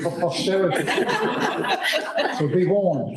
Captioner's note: laughter